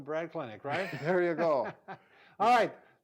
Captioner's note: laughing